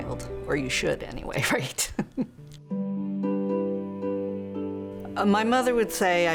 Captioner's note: chuckling